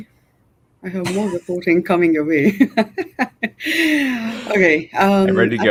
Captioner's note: chuckles